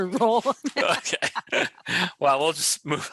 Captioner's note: laughing